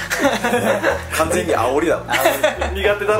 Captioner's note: laughs